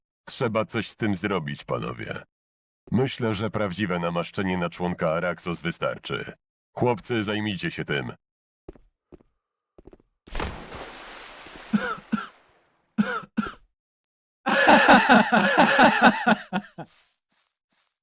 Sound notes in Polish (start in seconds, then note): 10.2 plusk wody; 14.4 śmiech wielu osób